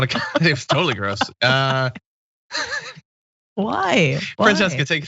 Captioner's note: laugh